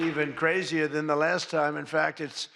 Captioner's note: applause